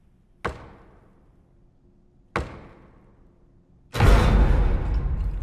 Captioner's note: knuckles rapping; intense frightening music